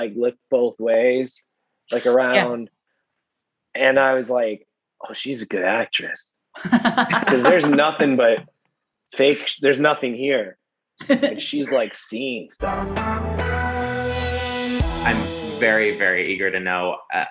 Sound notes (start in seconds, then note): 6.6 laughing; 12.6 upbeat intro music